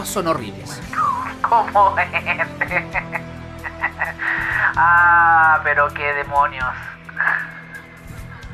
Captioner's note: laughs